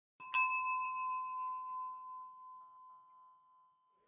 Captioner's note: bell ringing